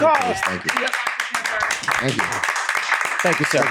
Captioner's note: all applauding